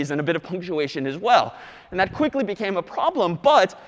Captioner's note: none